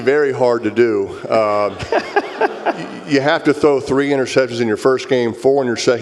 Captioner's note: laugh